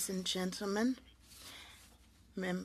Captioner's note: speaking French